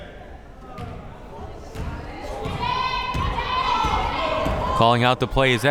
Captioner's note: crowd members shouting